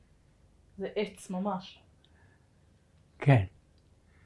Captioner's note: hebrew